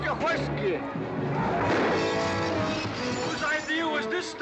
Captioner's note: gunshots